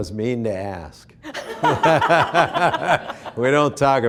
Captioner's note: laughing